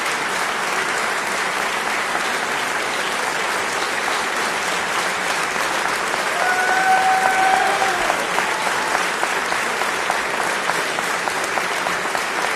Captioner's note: applause